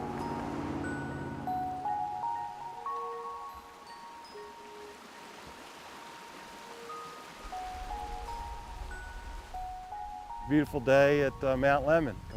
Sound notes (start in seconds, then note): 0.1 peaceful chime music; 4.0 water rushing